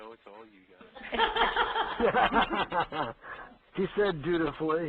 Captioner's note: laughter